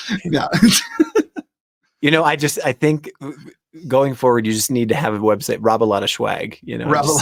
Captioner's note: laughing